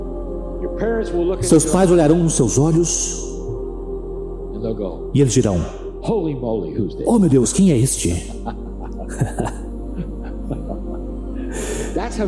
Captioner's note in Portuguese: risos